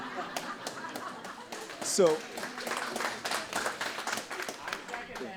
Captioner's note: audience clapping